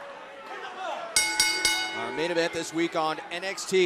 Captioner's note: bell ringing